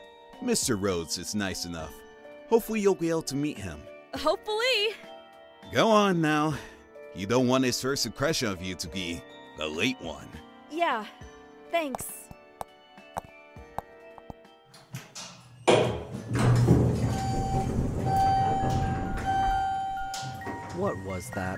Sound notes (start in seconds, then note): 12.8 elevator button clicks; 14.9 elevator doors open; 16.2 footsteps; 17.2 elevator door closes